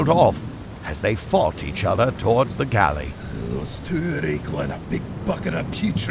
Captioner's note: grumble